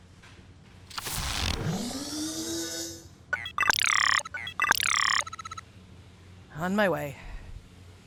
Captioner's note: robot beeps and whirrs